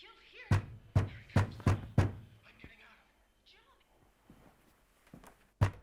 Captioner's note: loud knocking on door over muffled TV chatter; pounding on door